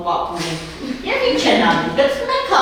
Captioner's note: laughing